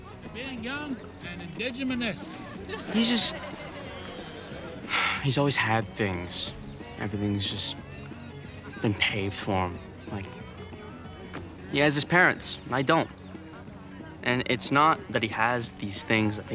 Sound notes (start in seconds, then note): 2.3 laughter; 4.0 sighs